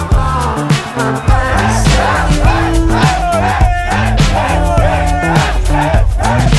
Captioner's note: friends screaming their lungs out in this heat